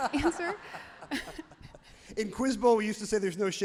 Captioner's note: everyone laughs loudly